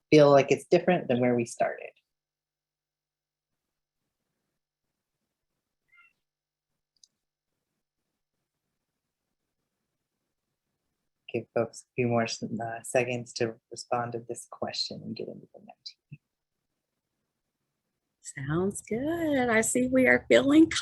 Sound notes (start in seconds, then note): 4.6 pause